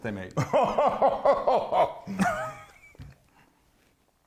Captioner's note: laughing